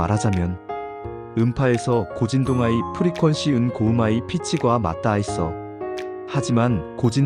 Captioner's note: high frequency